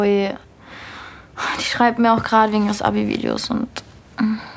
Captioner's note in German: Seufzen